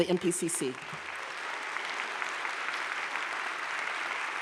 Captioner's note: audience claps